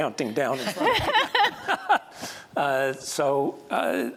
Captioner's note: laughter